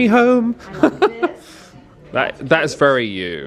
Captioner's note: chuckles